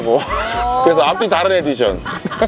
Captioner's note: laughter